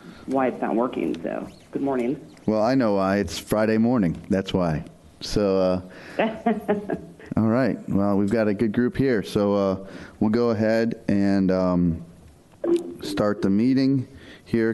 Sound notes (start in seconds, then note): 6.2 laughter